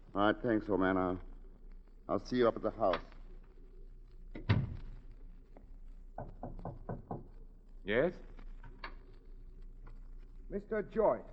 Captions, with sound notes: All right, thanks, old man. I'll see you up at the house. (door closes) (knocking on door) Yes? Mr. Joyce.